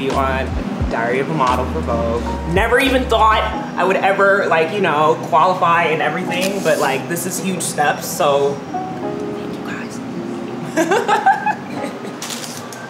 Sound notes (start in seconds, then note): 8.2 whispers; 10.6 laughs